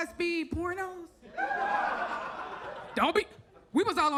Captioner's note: audience laughs